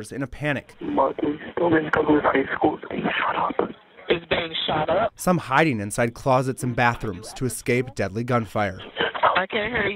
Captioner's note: nats of 911 calls